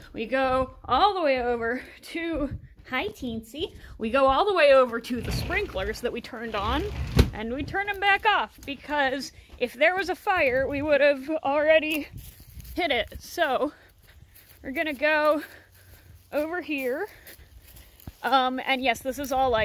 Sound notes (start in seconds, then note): none